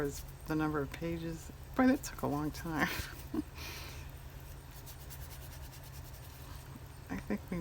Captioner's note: laughs